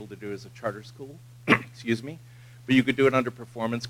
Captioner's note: cough